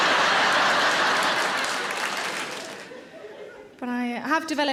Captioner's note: audience applauding; audience laughing